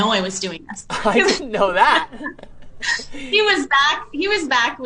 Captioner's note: laughs